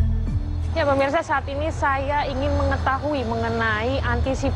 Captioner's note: non-english speech